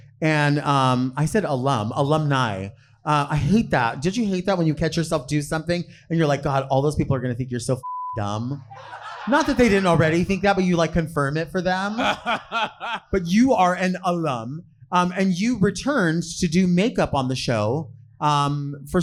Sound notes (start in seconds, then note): 7.8 beep; 11.8 laughing